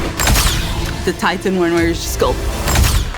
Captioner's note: uderzenie pięścią